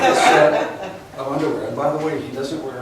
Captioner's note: laughs